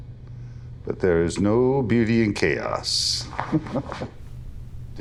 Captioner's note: snickering